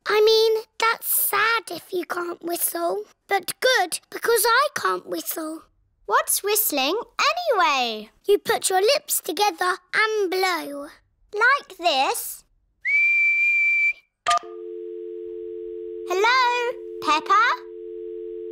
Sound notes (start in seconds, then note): 12.8 whistles; 14.4 dial tone beeping